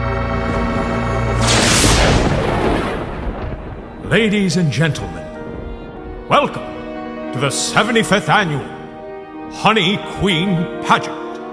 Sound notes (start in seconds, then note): 1.8 lightning cracks; 3.7 soft music